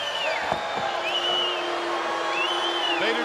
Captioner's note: crowd cheering; crowd booing